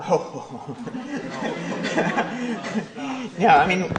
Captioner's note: laughter